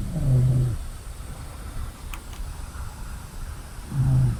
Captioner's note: snoring